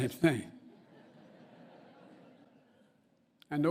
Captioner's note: laughter